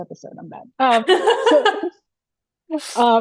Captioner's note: laughing